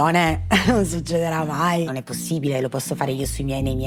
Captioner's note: laugh